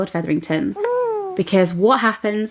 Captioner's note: baby coos